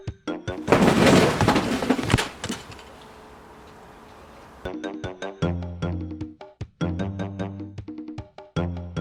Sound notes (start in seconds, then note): 0.5 music cuts to sound of boxes smashing